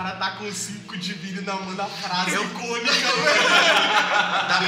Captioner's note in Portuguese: Risada